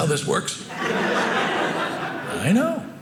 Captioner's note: audience laughing